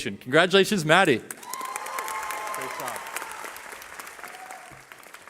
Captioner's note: cheering